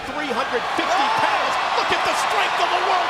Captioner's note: audience yells, exclaims